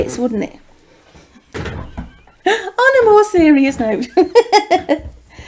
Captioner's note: chuckles